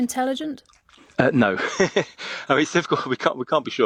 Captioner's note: laughs